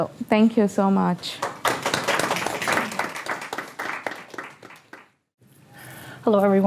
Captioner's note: applause